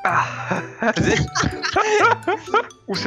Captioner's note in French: rires